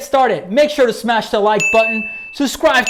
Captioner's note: bell dings